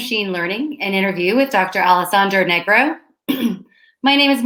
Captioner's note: clear's throat